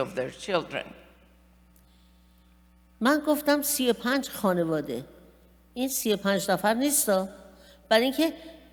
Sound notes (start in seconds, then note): 2.5 speaking persian